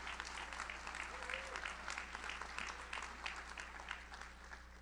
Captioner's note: audience applauds; audience cheers